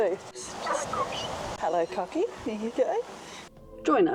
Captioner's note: laughing; bird taking